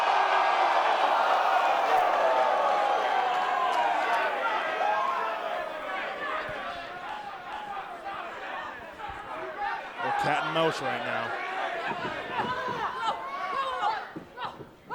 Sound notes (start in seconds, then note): 2.2 cheers & applause